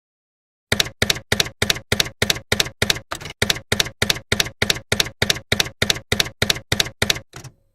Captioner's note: typewriter keys clacking